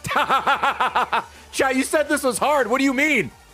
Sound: laughs

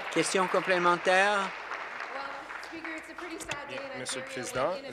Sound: applause

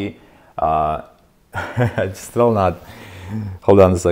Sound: laughs

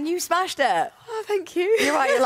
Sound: laughter

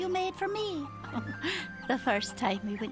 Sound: chuckles

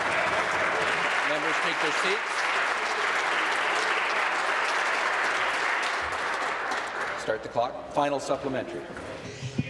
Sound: applause

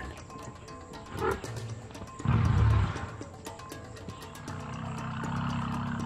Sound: elephants growling

